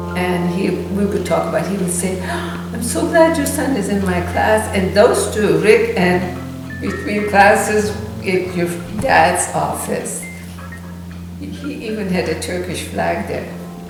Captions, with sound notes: And he-- we would talk about it-- He would say, "(gasp) I'm so glad your son is in my class!" And those two, Rick and-- Between classes at your dad's office. He even had a Turkish flag there.